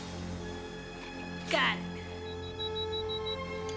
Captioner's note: beeping